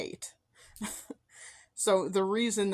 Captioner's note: soft chuckle